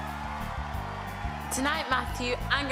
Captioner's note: faint audience cheers